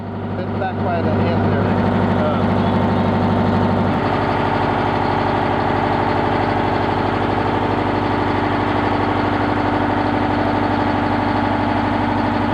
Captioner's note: machinery running